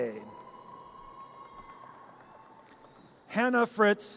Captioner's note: audience cheers